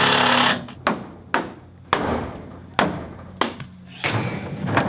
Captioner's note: various building sounds